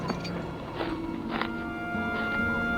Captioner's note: boots padding; ground crunching; soft music